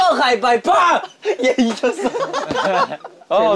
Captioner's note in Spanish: Jajaja